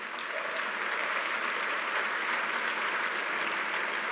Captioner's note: applause